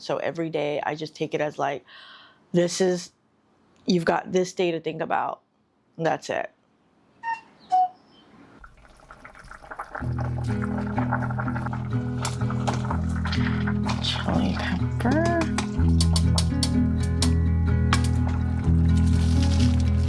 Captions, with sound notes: So every day, I just take it as like, this is, you've got this day to think about, and that's it. [cuckoo]